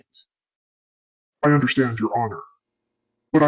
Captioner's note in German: verzerrt